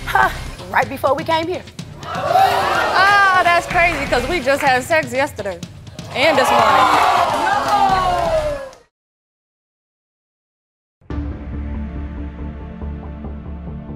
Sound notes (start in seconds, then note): 2.0 audience oohing; 6.2 audience oohing; 11.0 dramatic music